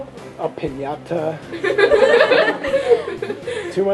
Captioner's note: laughing